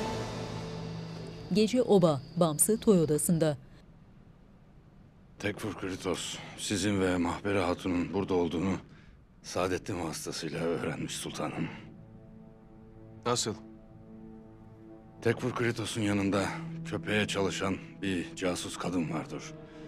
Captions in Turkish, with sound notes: (Cırcır böceği sesleri) (Ayak sesleri) Tekfur Kritos, sizin ve Mahperi Hatun'un burada olduğunu... ...Sadeddin vasıtasıyla öğrenmiş sultanım. Nasıl? Tekfur Kritos'un yanında Köpek'e çalışan bir casus kadın vardır.